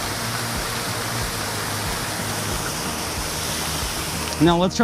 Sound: fountain spurts

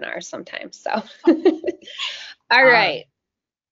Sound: chuckling

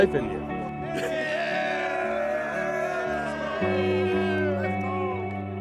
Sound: Cardinals cheering

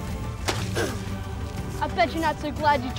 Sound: grunts

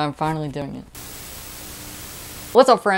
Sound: Static

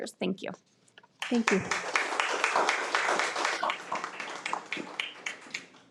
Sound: attendees applaud

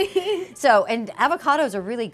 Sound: laughter

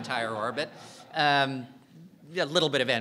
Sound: audience laughing

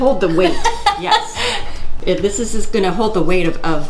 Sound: laughing

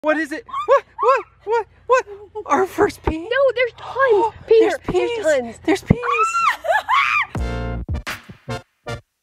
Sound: excited screams; fun intro music

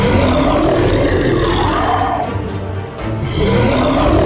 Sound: loud Roaring

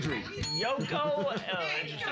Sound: bell softly chimes; loudly laughing

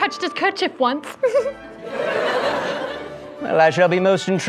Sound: giggle

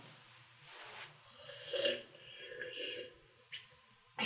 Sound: loud slurping noises

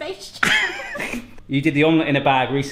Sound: laughing

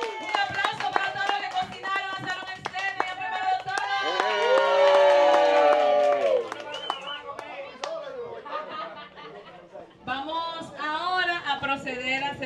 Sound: applause

